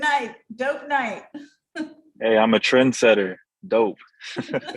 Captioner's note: laugh